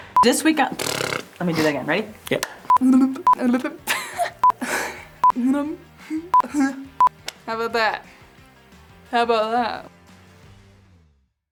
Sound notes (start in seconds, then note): 2.7 laughing